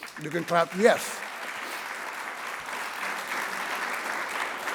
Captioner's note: people applauding